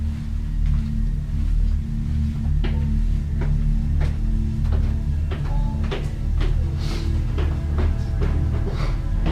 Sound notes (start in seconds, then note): 1.1 dark music; 3.8 footsteps going up stairs